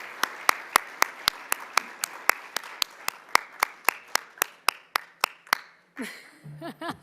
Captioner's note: applause